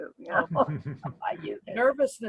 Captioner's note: chuckles